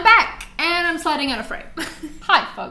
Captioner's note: laughs